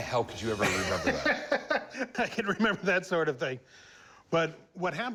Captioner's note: laughs